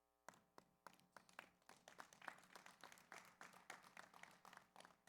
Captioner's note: audience applauds